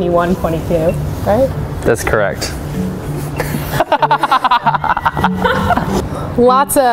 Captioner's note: laughs